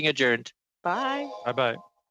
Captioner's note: speaking French